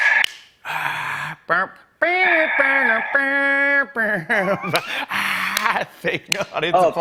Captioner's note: mimicking applause